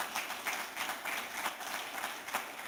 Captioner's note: applause